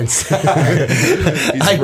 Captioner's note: laughter